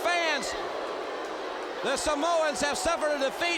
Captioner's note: crowd cheering